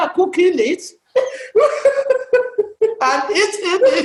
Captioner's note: laughter